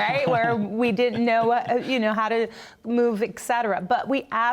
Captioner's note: laughter